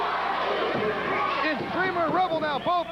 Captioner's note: crowd cheering